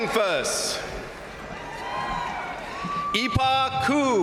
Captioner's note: crowd cheering; crowd applauding